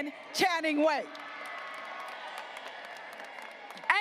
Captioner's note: graduates applauding